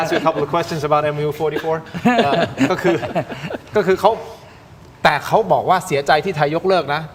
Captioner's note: laughter